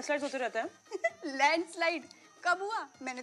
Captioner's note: Laughs